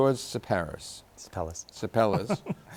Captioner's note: laughs